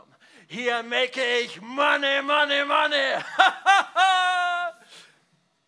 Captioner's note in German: lacht